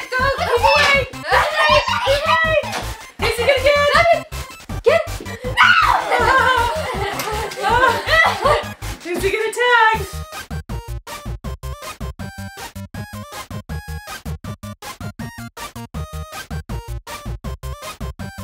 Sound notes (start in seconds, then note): 5.5 kids squealing; 11.0 playful music